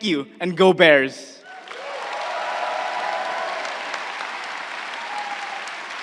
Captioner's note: crowd cheering and applauding